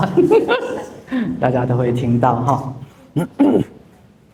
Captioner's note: audience laughing